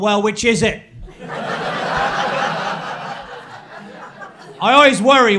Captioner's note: crowd laughing